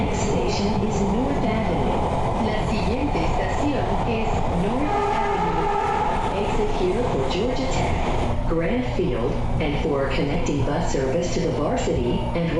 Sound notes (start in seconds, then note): 2.5 repeated in Spanish